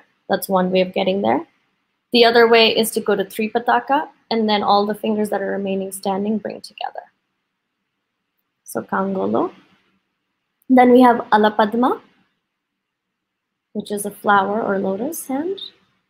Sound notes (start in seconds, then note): none